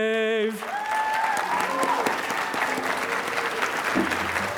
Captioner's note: applause